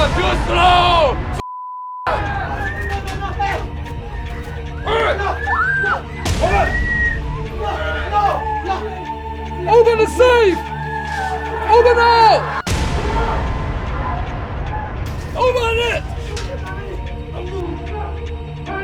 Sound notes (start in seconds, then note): 3.2 dramatic music; 3.2 people screaming; 12.6 suspenseful music